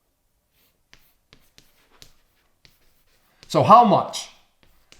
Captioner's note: chalk scraping on chalkboard